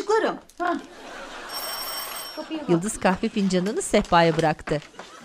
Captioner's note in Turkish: Kapı zili sesi